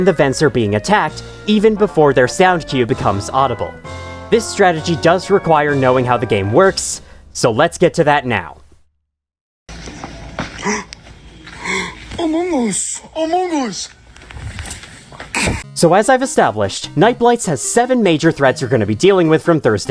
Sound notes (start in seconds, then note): 11.5 gasp